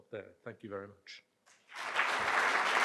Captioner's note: applause